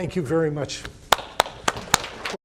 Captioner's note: clapping